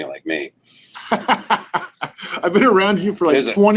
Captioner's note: laughing